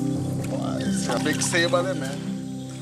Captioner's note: foreign spoken audio